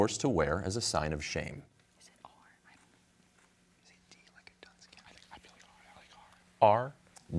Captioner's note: team whispering